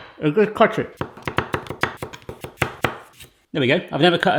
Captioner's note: sharp chopping